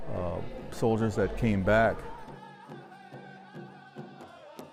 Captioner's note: chanting